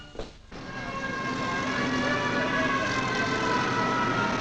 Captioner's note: sirens wailing